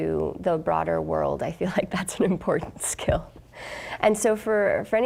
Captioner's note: chuckling